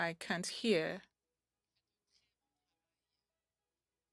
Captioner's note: speaking French